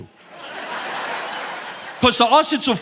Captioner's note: audience laughing